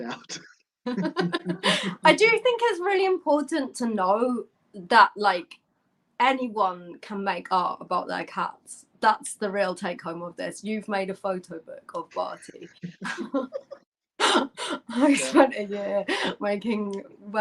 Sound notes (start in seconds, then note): 0.8 laughter